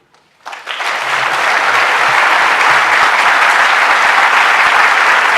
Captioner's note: applause